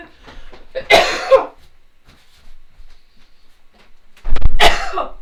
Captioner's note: coughing harshly